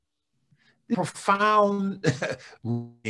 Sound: chuckles

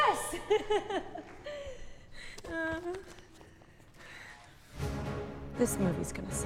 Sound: nervous laugh

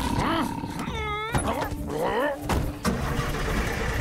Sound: groaning

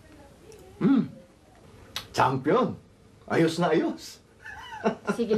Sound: chuckling

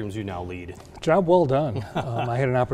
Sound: laughing

